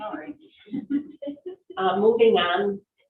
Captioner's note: all chuckling